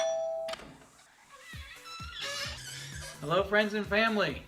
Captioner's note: doorbell ringing; door squeaking